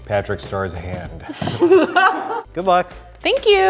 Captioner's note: laughing